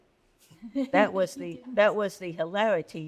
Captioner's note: laughs